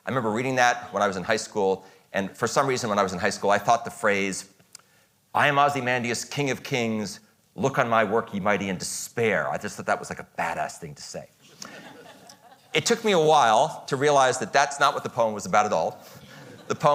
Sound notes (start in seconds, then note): 11.5 audience chuckles